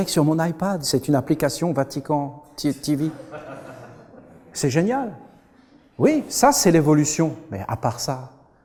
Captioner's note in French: rires